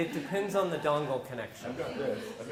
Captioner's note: laugh